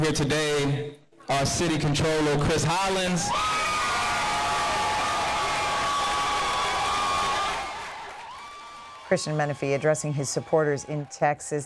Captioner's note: applause